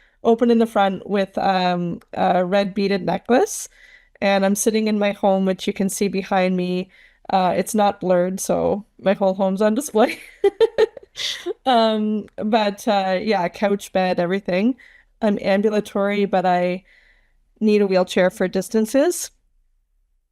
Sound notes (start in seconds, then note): 10.2 laughs